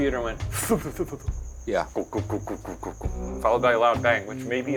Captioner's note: imitating sounds